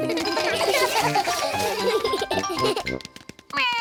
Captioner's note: all giggle